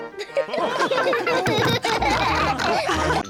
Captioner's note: chuckles; all laugh